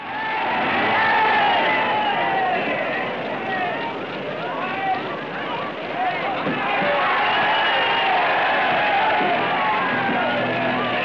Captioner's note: cheering